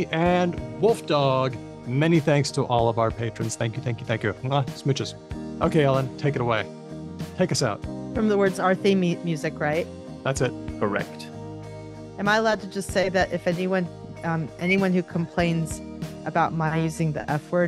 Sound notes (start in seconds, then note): none